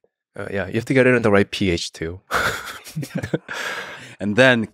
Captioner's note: laughs